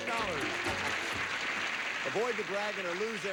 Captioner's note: audience applauding